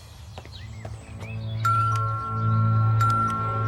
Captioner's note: doorbell ringing